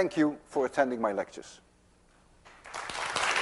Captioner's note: class applauds